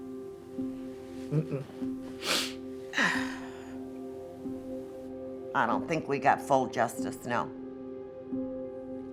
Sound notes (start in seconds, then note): 2.1 sniffs, exhales